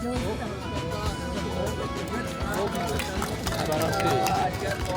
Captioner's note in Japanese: 拍手喝采